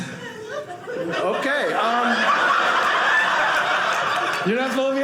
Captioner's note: audience laughing